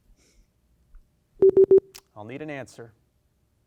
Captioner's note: time out beeps